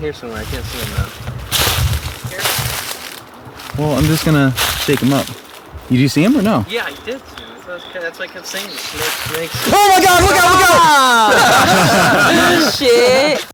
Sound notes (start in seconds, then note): 9.6 Victor screaming; 9.7 laughing